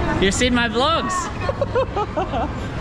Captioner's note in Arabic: يضحك